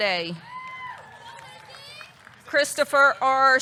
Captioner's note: audience cheering